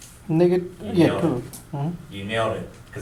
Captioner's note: voiceover